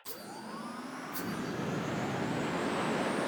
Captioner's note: engine whirs